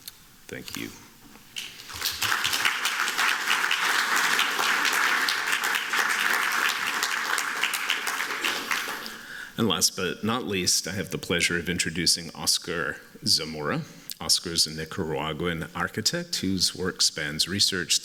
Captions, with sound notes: Thank you. [APPLAUSE] And last but not least, I have the pleasure of introducing Oscar Zamora. Oscar is a Nicaraguan architect, whose work spans research,